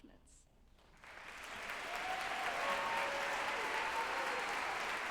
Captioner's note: group applauding and cheering